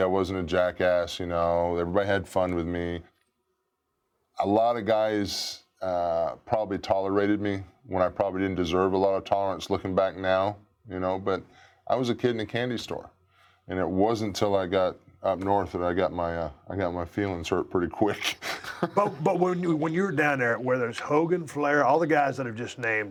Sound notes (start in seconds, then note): 18.3 laugh